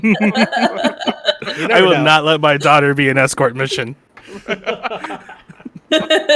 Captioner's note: laugheter; as Gordon Ramsay; laughter